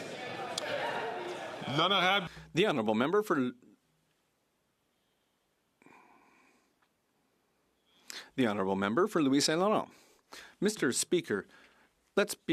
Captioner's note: some Applause